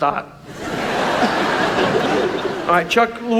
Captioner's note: audience laughs